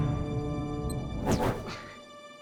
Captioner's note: zap!